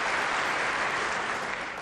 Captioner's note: applause